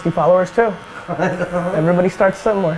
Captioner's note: laughs